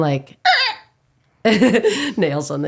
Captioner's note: squeaking